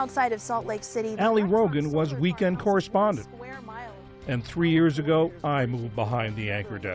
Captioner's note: voice-over